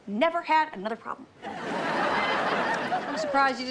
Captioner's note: audience laughs